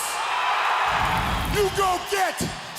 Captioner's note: crowd cheering